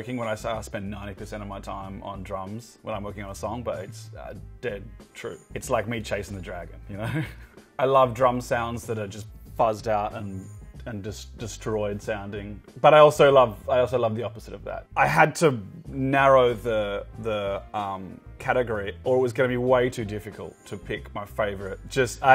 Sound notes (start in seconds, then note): 7.0 laughs